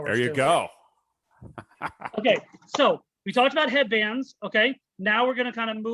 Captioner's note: laughs